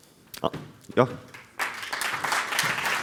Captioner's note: applause